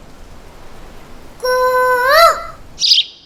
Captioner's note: Mimicking Cuckoo's voice